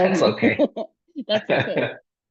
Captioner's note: laugh